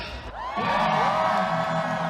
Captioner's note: cheering